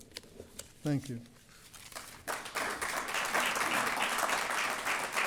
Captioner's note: applause